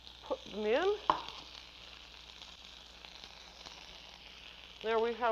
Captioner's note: sizzling